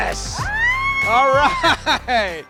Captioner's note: laughs; screams